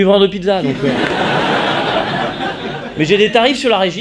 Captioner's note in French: rires